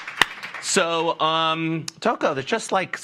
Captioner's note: applause